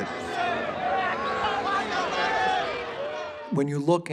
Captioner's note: people shouting in background